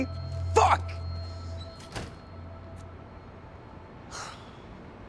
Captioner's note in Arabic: يغلق الباب; تنهد